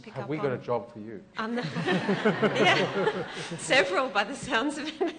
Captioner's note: laughter